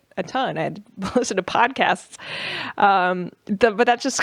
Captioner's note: laughs